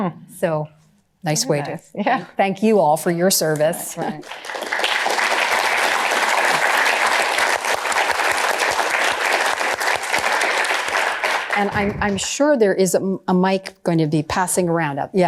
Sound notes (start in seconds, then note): 3.9 applause